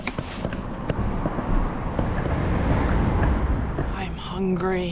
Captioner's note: cars